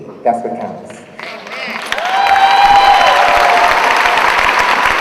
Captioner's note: audience applauding